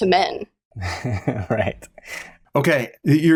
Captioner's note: chuckles